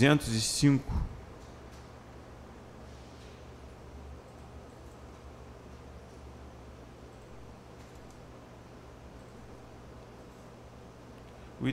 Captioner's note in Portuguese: Silêncio